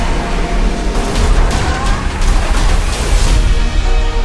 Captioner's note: gun shots; dramatic music continues